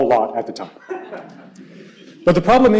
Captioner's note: laughter